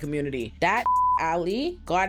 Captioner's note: beep